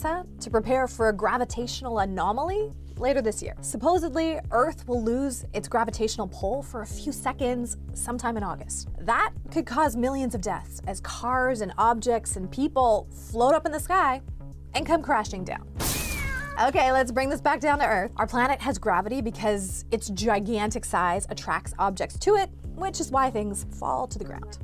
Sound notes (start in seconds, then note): 15.8 crashing, cat yowling sound effect